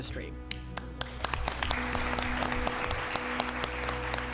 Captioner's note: group clapping